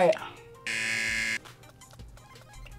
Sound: buzzer

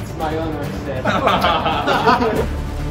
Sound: laughter

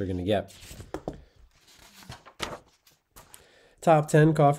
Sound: page rustling

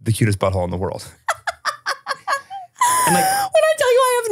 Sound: laughing

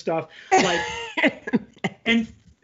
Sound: laughs

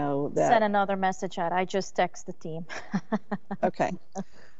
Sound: laughs

